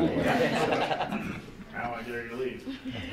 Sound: board members laughing

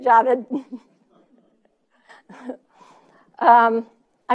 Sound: laughing

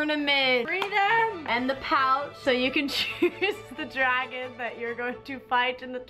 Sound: laughs

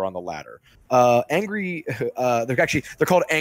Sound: laughs

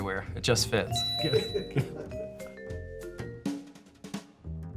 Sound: bell dings

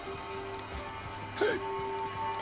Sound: gasps

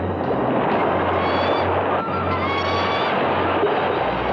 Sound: bird shrieking

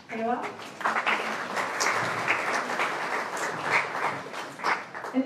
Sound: applause

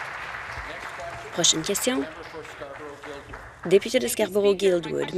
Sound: applause

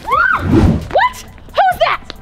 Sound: girl screams; girl whooshes past

